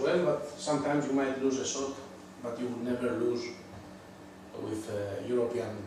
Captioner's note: none